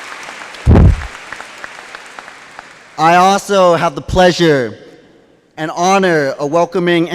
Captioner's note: applause